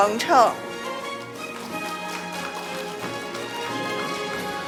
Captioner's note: audience applauding; orchestral music